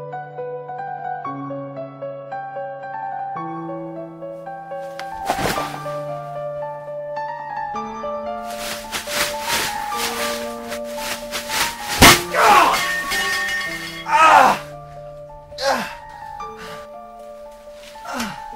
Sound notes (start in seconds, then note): 4.8 thudding; 12.0 groaning; 12.0 thudding